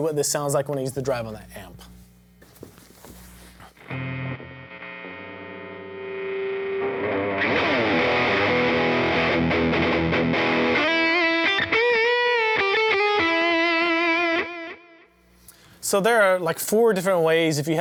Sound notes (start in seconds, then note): 3.7 humming; 7.7 guitar music